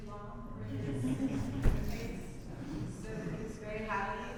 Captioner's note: audience laughs